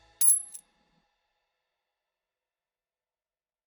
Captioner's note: change clinking